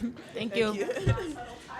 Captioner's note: laughs